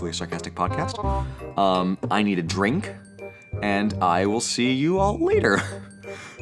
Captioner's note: chuckle